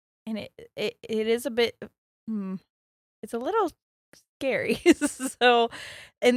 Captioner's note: giggles